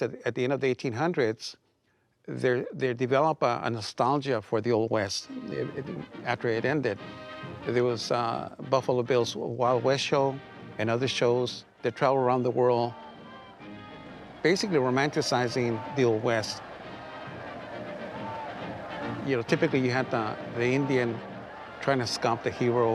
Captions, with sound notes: of the 1800's, they develop a nostalgia for the Old West, after it ended. There was Buffalo Bill's Wild West Show and other shows that travel around the world, basically romanticizing the Old West. (crowd cheering) You know, typically you had the, the Indian trying to stop the hero